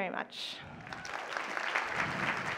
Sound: applause

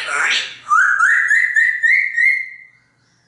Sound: whistles

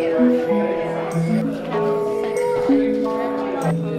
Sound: chattering

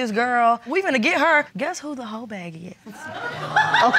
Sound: audience laughs

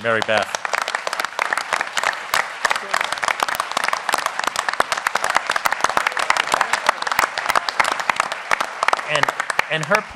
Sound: applause

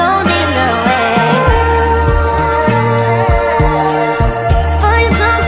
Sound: ooh, ooh

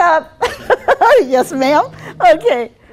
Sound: laughing

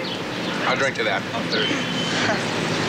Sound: car approaches; kate chuckles

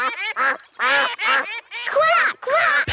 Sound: quacking

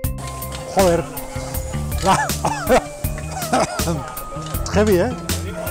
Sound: coughs

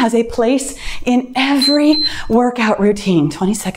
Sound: timer beeps

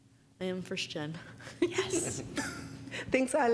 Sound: whispering

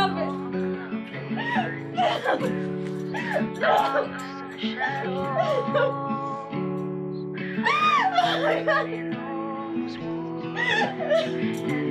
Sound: crying

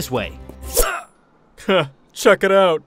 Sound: groans

